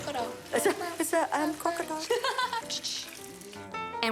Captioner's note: both laugh